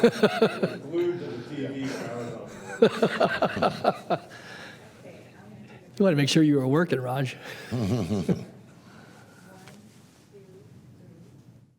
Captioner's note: laughter